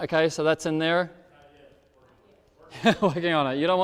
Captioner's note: speaks off microphone; laughs